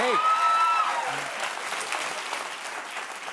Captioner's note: cheers and applause